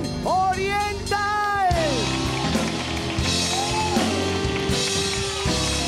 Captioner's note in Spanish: Ovación